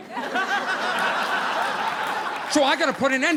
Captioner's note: audience laughing